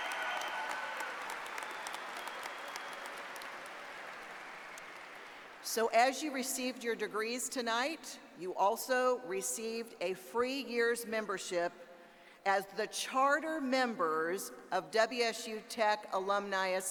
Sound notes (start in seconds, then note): 0.0 applause